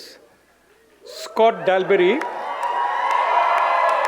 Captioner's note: audience cheers